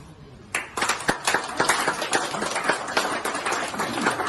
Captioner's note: applause